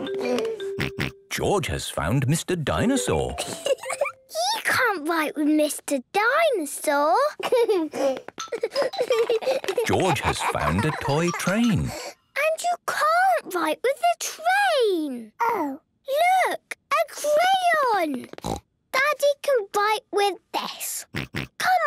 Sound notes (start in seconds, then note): 3.4 giggling